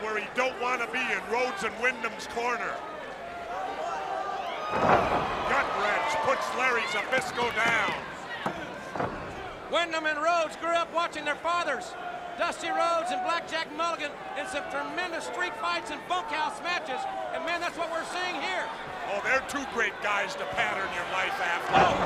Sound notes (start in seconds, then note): 8.8 crowd chatter; 21.8 crowd cheering